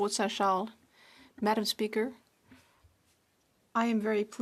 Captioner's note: speaking French